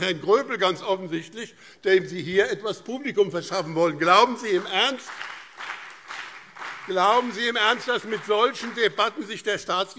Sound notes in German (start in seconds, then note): 4.1 Beifall BÜNDNIS 90/DIE GRÜNEN und CDU